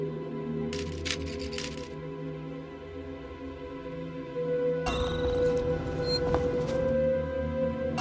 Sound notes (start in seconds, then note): 0.9 software clicking